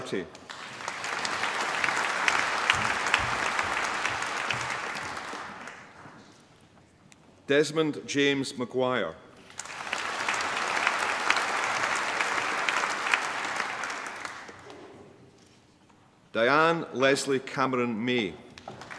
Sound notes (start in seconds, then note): 0.0 applause; 9.4 applause; 18.5 applause